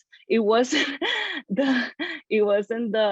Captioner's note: laughs